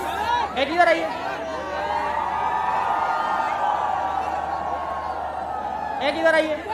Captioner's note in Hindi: चियरिंग